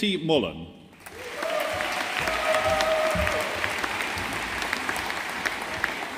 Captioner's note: audience applauding